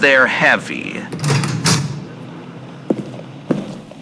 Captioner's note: he opens the large door fx